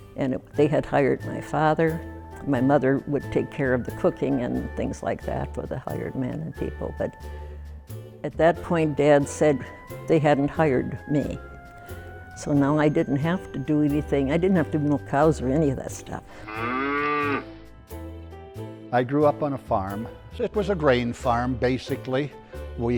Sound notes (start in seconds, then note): 16.4 cow moos